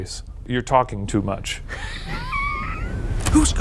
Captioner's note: laughs